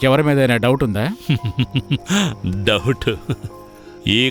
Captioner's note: laughs